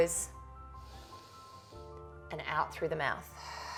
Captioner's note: inhales; exhales